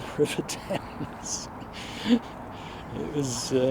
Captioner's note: laughs